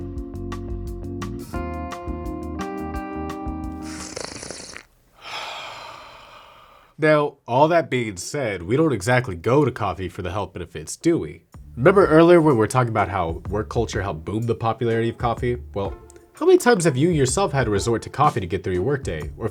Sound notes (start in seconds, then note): 3.8 gentle slurps